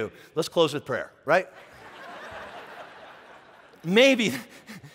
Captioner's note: laughing